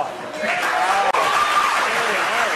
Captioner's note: applause